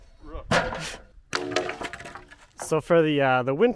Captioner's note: wood tumbling